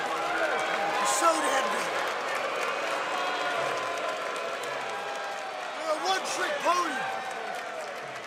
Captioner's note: cheers and applause